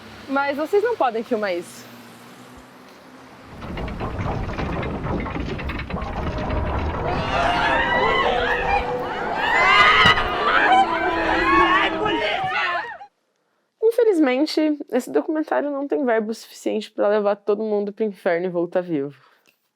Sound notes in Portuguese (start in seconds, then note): 3.5 barulho de portões se abrindo e almas gritando em agonia de fundo; 8.0 equipe gritando